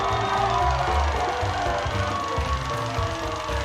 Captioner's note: crowd cheering